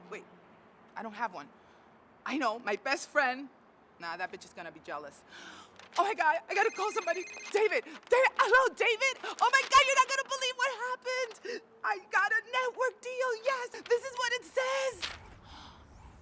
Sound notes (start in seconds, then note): 6.5 phone ringing